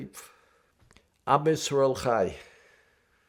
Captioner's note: hebrew